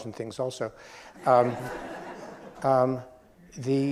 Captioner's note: laughs